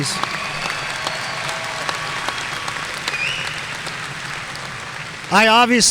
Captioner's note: audience cheering and applauding